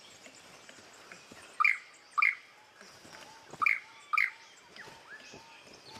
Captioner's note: chirps